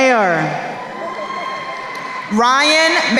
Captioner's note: crowd cheering